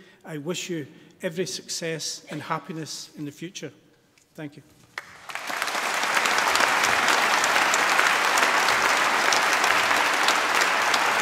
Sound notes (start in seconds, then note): 6.8 applause